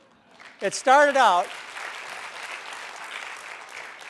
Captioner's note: applause